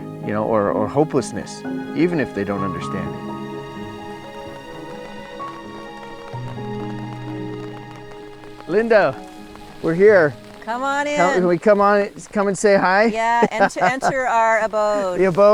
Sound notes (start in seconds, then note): 3.4 gentle music continues; 10.6 laughs